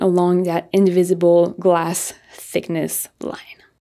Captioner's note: none